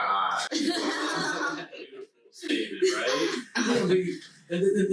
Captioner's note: laughing loudly